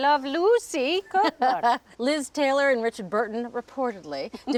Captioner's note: laughs